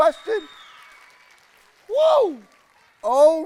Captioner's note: people cheering